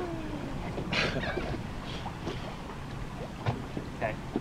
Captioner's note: laughs